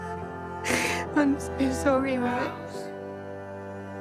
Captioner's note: crying